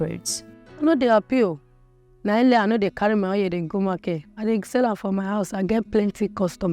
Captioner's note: speaking in foreign language